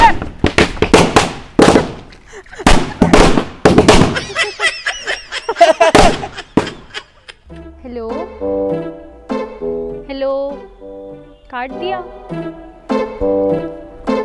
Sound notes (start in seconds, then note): 2.2 laughing